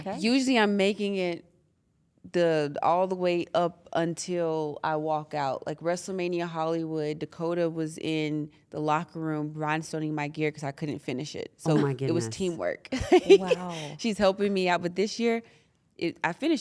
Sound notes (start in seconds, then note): 13.1 laugh